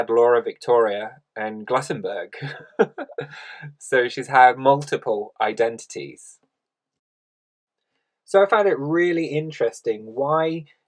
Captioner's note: laughs